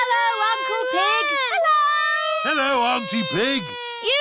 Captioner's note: none